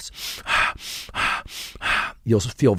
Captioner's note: inhales and exhales quickly